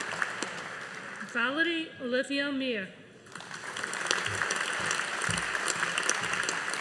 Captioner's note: audience applauding